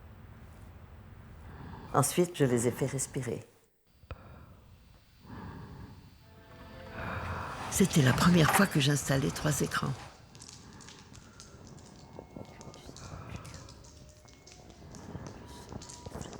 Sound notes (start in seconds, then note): 4.9 loud breathing; 12.4 loud breathing